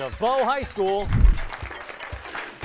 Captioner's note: applause